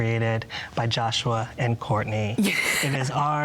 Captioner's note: laughs